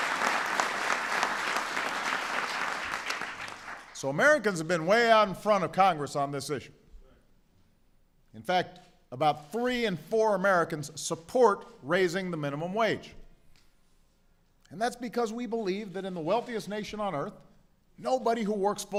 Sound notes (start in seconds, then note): 0.0 applause